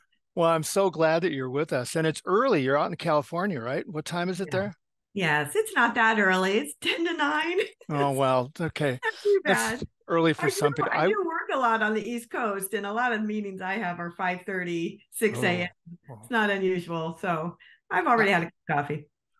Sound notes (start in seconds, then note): 10.4 laugh